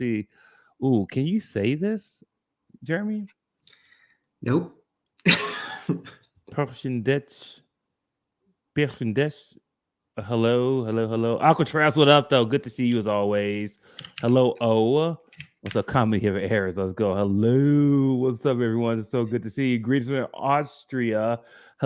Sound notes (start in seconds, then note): 4.9 laughs; 8.5 non-english